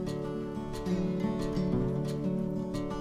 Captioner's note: sound of the campfire crackling